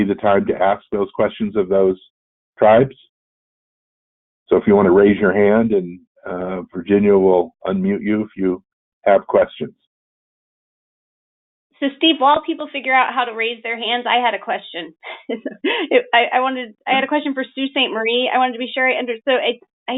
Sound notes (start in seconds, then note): 15.0 laughter